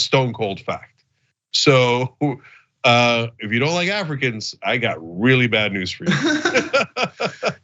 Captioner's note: laugh